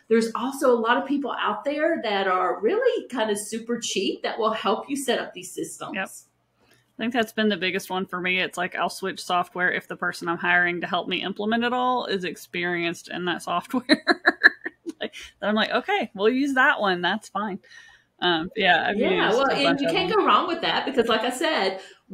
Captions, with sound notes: there's also a lot of people out there that are really kind of super cheap that will help you set up these systems. - Yep, I think that's been the biggest one for me. It's like I'll switch software. If the person I'm hiring to help me implement it all is experienced in that software (laughs) Like then I'm like, "Okay, well use that one." That's fine. Yeah, I... - Yeah Well and you can't go wrong with that because like I said,